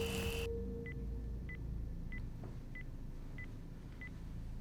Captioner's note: alarm beeping